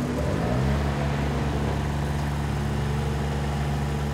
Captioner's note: engine humming